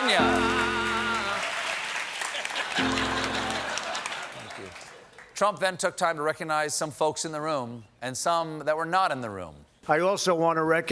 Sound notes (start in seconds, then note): 2.3 laughter